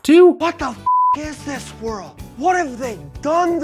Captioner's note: beep